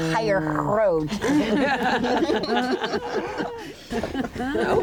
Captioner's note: laughter